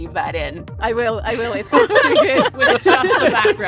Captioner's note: laughs